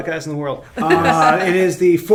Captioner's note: group chuckles